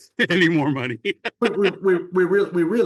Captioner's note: laughs